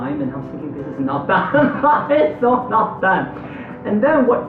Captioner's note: laughter